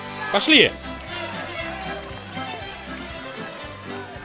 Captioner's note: crowd yelling throughout